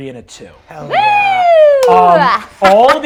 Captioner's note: cheers